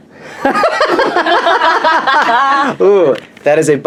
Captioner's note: laughs